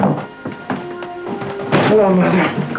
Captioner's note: door closing; footsteps; paper rustling